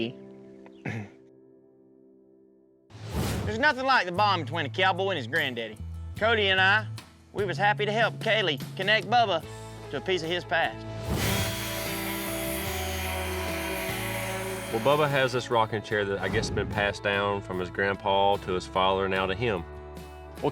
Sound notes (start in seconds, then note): 11.2 sanding